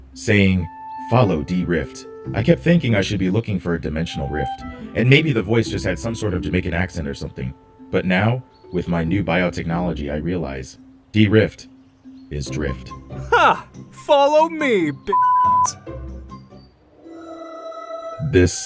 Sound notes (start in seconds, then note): 14.6 beeping; 16.9 haunting music